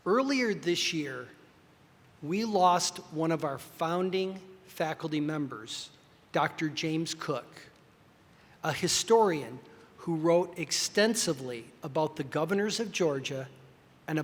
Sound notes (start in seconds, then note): none